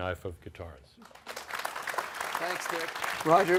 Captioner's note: applause